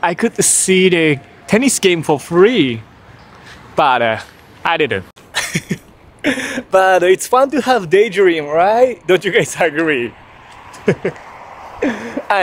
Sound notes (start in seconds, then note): 5.3 laughs; 10.6 laughs